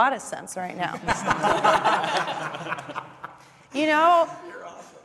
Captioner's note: panelists laughing